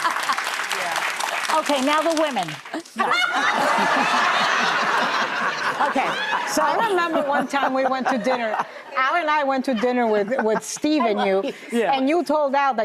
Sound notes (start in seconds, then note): 0.0 audience claps; 2.9 audience laughs